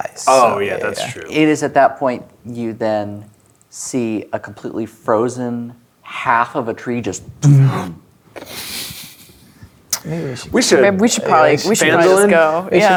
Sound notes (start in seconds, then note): 7.2 players gasp; 8.0 snickering